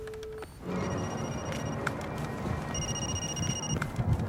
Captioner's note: phone rings